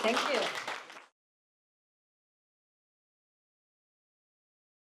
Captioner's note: audience applauds